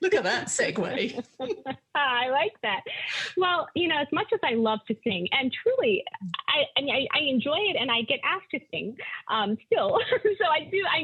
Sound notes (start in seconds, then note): 1.6 laughing